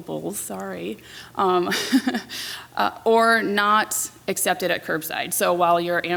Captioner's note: laughs